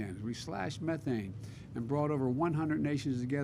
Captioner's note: none